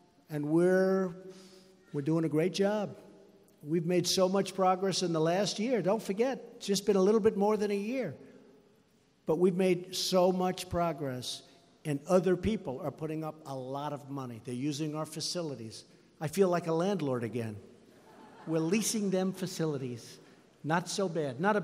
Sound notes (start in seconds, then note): 17.9 laughter